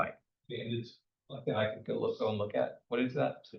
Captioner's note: speaker speaking faintly